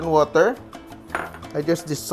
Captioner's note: clink